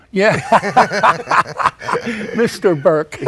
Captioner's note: laughing